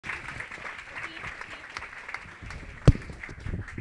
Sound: audience applauds

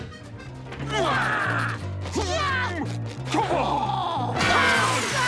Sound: grunting; screaming

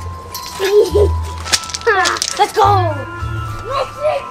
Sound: Smalls laughing

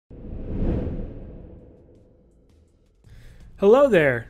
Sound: whooshing

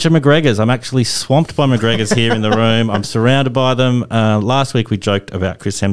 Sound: laughter

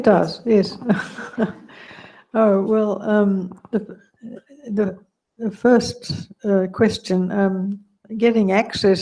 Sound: laugh

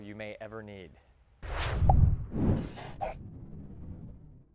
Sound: whooshing

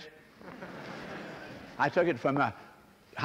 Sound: laughter

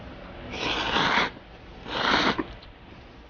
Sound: slurping noodles X 12

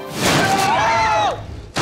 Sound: screaming

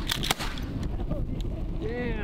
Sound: laughing

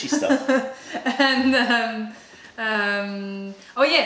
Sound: laughter

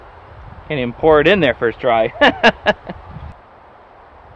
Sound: laughs

